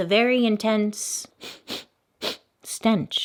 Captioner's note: sniffs